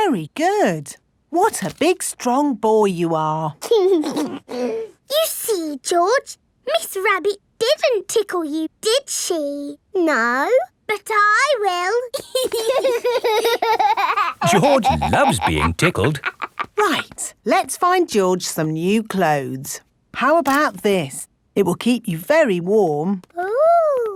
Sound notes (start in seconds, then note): 3.9 giggles; 12.2 laughing